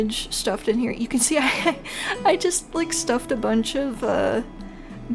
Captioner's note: laugh